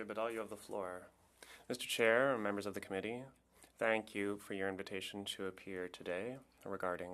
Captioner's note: speaking French